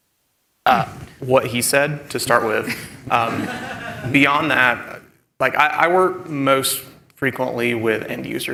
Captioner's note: laughter